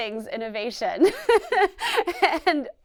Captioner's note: laughs